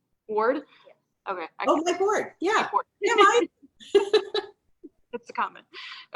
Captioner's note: laughs